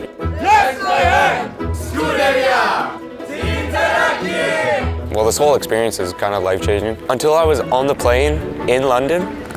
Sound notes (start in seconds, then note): 0.3 cheering in foreign language